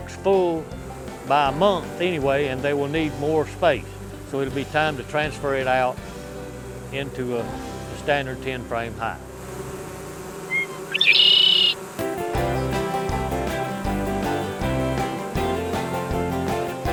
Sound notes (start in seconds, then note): 9.2 bees buzzing; 10.5 bird chirping